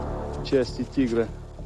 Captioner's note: speaking russian